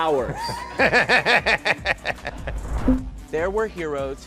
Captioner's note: Bobby laughs